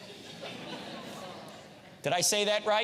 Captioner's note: audience laughs